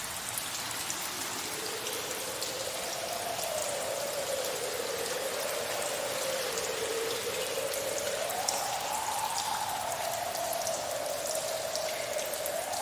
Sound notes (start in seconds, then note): 0.7 strong wind